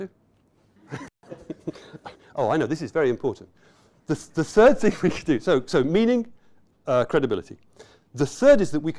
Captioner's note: laughter; chuckling